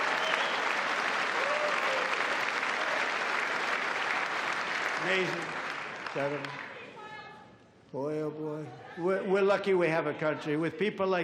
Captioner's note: cheers and applause